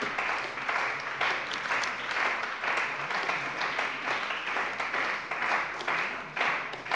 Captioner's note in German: Beifall bei der CDU und bei Abgeordneten des BÜNDNISSES 90/DIE GRÜNEN